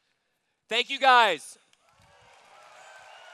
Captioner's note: cheers